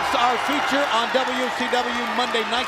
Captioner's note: crowd cheering